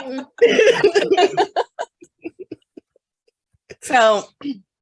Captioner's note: both laughing